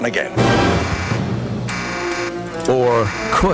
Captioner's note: alarm buzzes